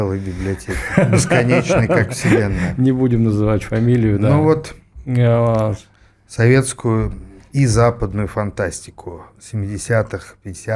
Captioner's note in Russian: смех